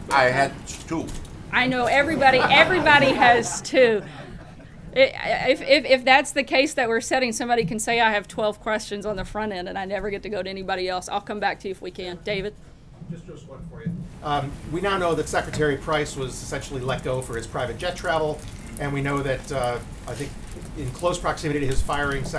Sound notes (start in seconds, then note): 2.0 laughter